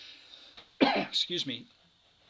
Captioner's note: coughs